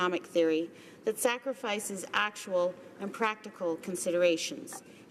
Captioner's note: none